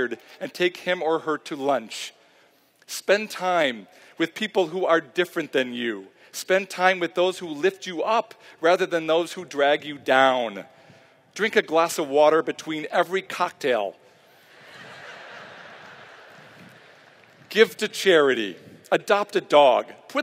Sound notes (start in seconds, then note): 14.5 laughter